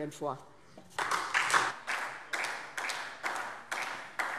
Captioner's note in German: Beifall SPD